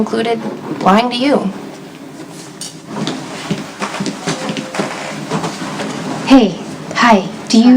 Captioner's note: footsteps approaching